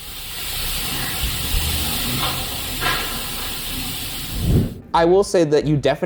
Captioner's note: static; clunking noises